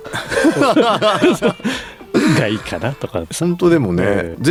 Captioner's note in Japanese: 笑い